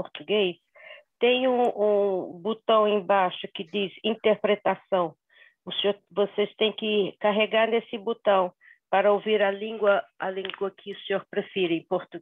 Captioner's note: speaking Portuguese